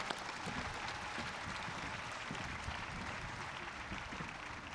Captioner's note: audience claps